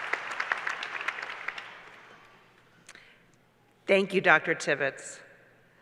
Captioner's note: applause